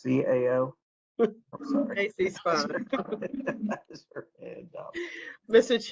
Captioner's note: laughter